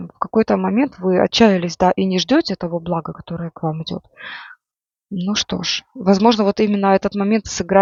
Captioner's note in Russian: тяжело вздыхает